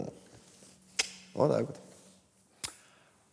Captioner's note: clicks tongue